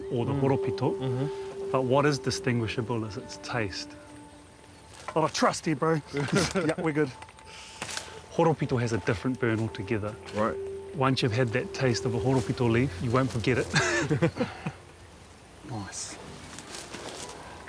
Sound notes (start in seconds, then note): 6.2 chuckles; 13.7 both chuckle